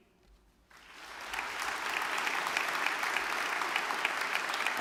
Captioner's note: audience clapping